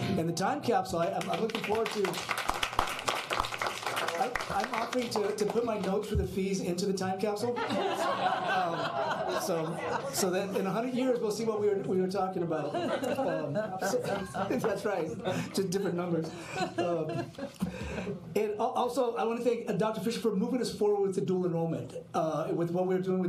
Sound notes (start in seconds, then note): 1.1 applause; 7.5 laughter